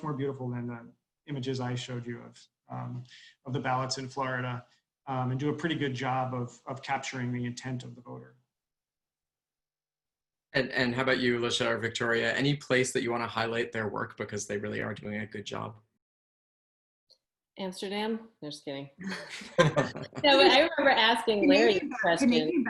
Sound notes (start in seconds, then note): 19.0 laughter